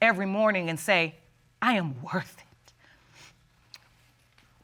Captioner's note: sniffles